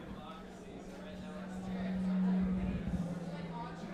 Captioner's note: mic buzzing